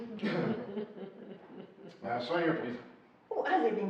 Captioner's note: laughing